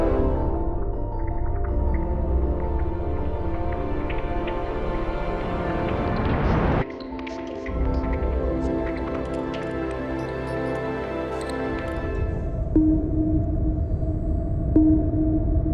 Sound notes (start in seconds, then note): 6.6 gentle swoosh; 12.6 soft ambient music